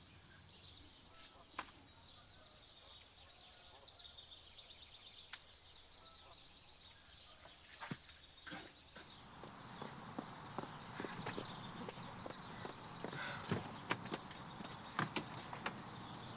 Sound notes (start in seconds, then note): 4.0 birds continue chirping; 13.1 Cassie sighing